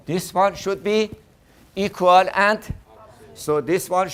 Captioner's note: class in unison